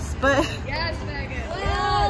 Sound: screaming

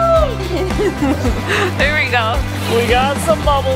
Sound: laughs

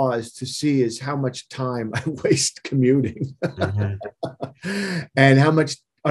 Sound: laughing

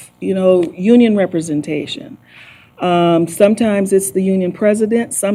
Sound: none

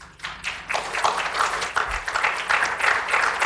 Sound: applause

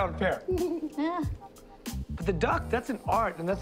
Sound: laughs

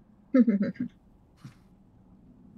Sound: laughter

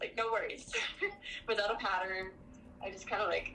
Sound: laughs

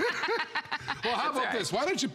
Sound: laughter

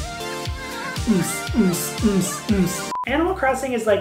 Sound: upbeat electronic music; vocalizing bass beats

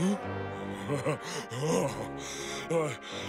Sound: laughing

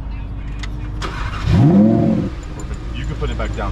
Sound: that engine sound though

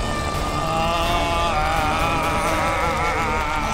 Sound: growling continues

